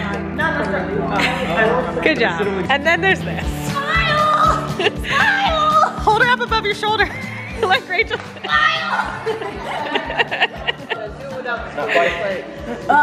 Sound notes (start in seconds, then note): 7.1 laughs; 9.7 laughing